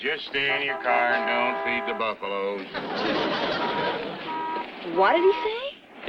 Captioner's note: audience laughs